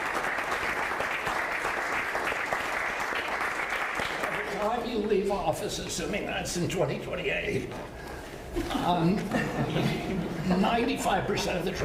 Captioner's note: applause